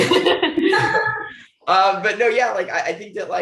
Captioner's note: panelists laugh